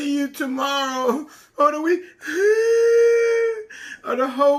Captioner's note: crying